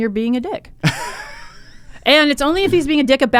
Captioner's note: laughs